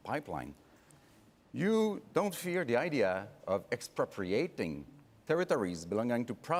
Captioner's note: speaking French